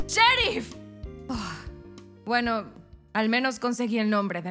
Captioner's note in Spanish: Suspiro